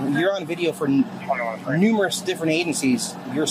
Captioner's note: radio chatter